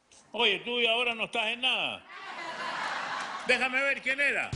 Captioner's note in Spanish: risas